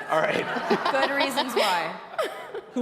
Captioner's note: audience laughing